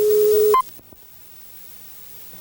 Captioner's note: beeps